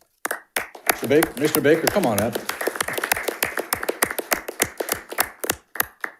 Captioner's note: panelists applauding